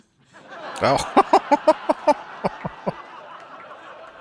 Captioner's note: laughing